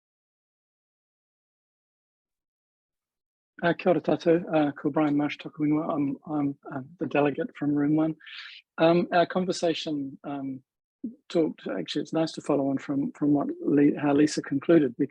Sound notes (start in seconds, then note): 3.7 speaks Maori